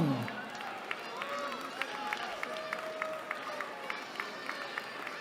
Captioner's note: cheering